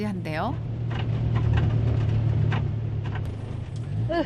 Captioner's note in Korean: 덜컹덜컹